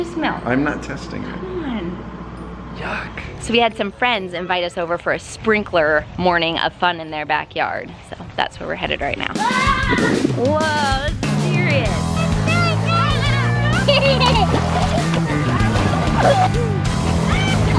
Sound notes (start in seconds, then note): 14.2 laughing